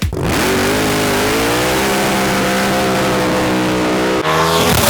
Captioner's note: throttle howling; car zooming